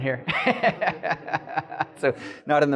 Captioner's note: giggling